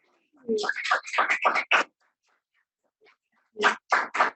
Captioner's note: audience claps